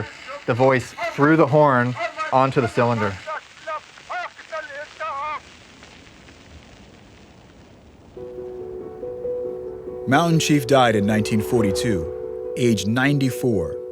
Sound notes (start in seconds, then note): 3.1 recording continues; 8.1 calm music